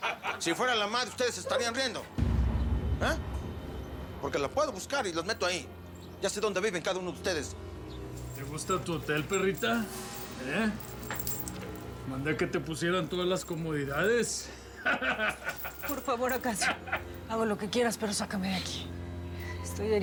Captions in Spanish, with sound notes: >> SI FUERA LA MADRE DE USTEDES, ¿SE ESTARÍAN RIENDO, EH? PORQUE LAS PUEDO BUSCAR Y LAS METO AHÍ. YA SÉ DÓNDE VIVEN CADA UNO DE USTEDES. >> ¿TE GUSTA TU HOTEL, PERRITA, EH? MANDÉ QUE TE PUSIERAN TODAS LAS COMODIDADES. [RISAS] >> POR FAVOR, ACACIO, HAGO LO QUE QUIERAS, PERO SÁCAME DE AQUÍ.